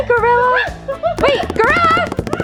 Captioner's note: exciting gorilla sounds